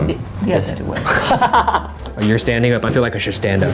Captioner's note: laughs loudly